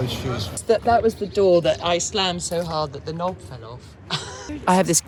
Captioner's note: laughter